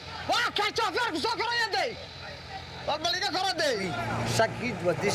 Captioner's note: speaking foreign language